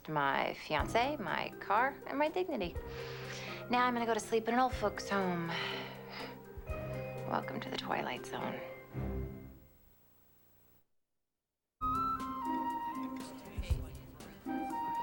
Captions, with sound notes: I HAVE LOST MY FIANCé, MY CAR, AND MY DIGNITY. NOW I'M GOING TO GO TO SLEEP IN AN OLD FOLKS' HOME. [ SCOFFS ] WELCOME TO THE TWILIGHT ZONE.